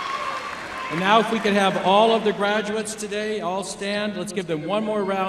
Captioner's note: cheers and applause